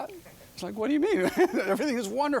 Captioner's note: laughing